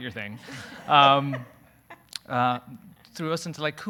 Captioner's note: audience laughing